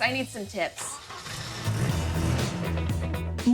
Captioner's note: car engine revving; upbeat music